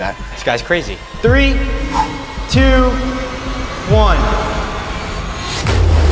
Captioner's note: distorted